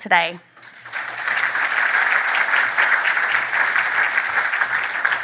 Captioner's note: applause